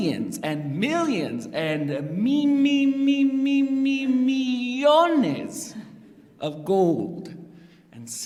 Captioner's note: non-english speech